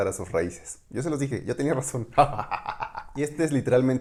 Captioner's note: laughs in crazy spanish